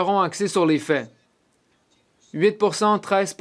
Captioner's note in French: voix de l'interprète